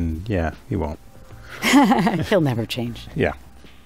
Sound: laughs

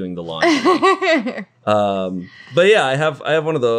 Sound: laughing

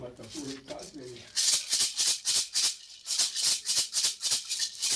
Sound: rattles

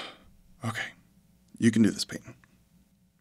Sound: sigh

